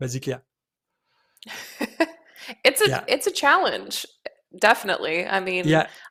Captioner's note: laughs